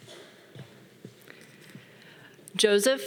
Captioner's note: man coughing